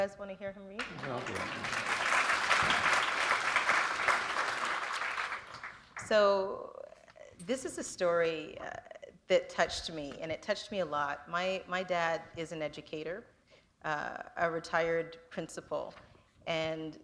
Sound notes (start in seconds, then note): 5.0 applause